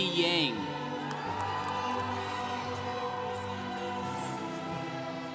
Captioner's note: congregation cheering